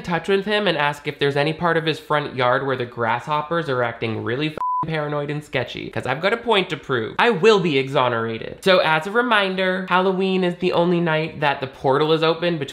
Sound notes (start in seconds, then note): 4.6 beep